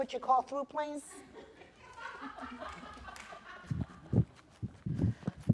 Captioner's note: laughter